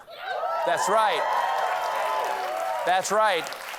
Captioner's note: cheers and applause